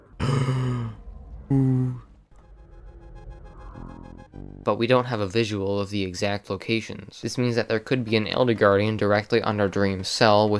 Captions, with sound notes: [Elder Guardian noises on the left] [Elder Guardian noises underneath] But we don't have a visual of the exact locations. This means that there could be an Elder Guardian directly under Dream's cell